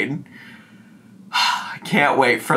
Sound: sighs

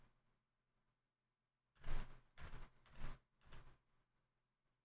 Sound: typing

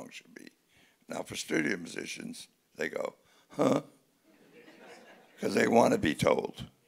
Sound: grunting

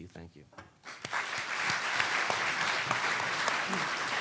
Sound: clapping

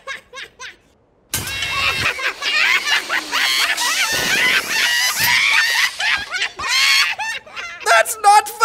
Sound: other soldiers huff their gas and start laughing

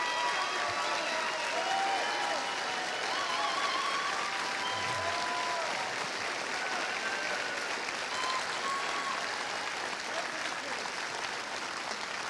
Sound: cheers and applause

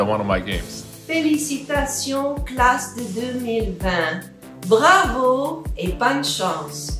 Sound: speaks in foreign

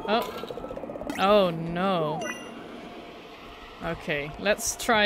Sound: none

